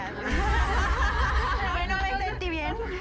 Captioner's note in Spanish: todas ríen